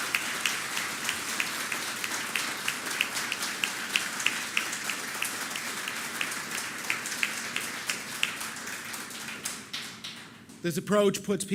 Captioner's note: applause